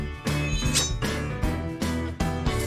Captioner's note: metallic ringing